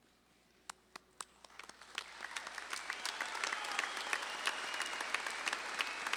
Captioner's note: audience claps and cheers